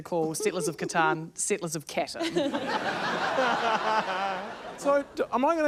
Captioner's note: laughter